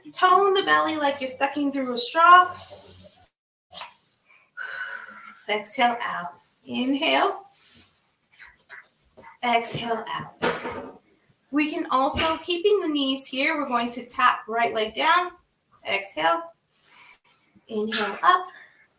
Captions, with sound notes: Tone the belly like you're sucking through a straw. (exhales) Exhale out, inhale (inhales) exhale out. We can also keeping the knees here, we're going to tap right leg down. Exhale, inhale up.